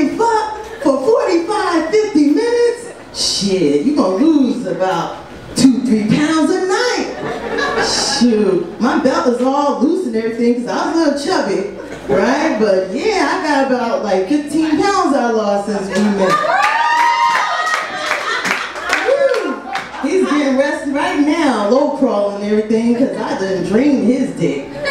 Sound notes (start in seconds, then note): 16.2 audience cheers